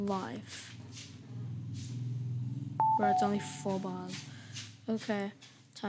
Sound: ding dong!

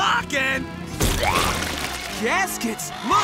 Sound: cheering

